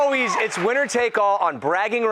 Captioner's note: cheers and applause